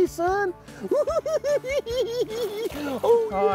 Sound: cackling

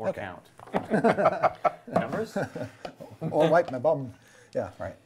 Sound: laughing

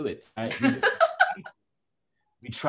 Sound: laughs

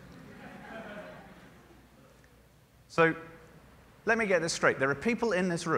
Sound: laughter

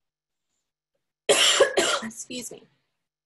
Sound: coughing

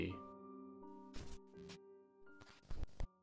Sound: soft static

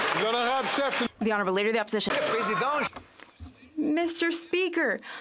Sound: some Applause

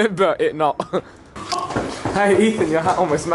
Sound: feet stomping

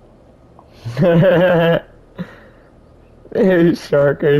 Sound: laughing

